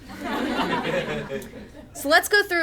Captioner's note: attendees laugh